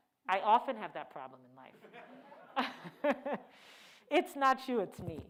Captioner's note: laughs